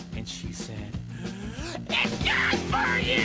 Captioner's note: inhale